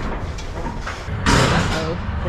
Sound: loud pounding

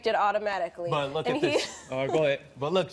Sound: laughs

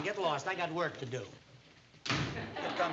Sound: door slams

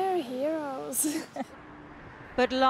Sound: laughter

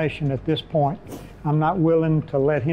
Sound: whooshing

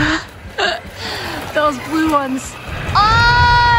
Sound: laughs

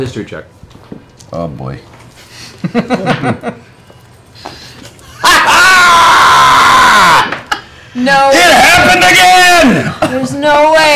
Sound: laughs

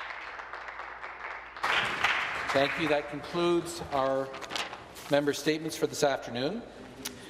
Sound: some applause

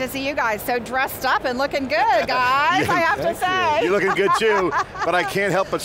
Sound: laughs

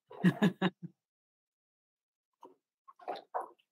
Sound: laughs

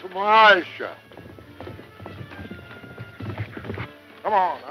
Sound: horse galloping

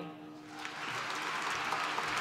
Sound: applause

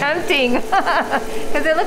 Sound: laughing

